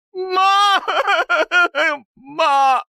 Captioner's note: laughter